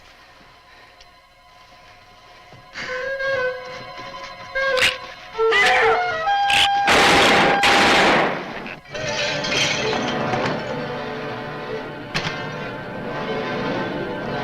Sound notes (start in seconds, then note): 0.2 suspenseful orchestral music; 6.8 gun fires; 8.8 bottles clatter; 9.0 tense orchestral music